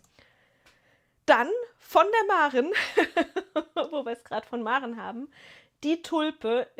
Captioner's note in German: gelächter